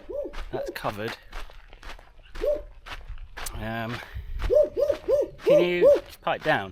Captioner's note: barking